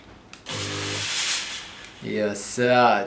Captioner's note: whoosh